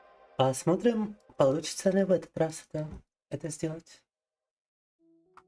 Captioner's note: speaking in foreign language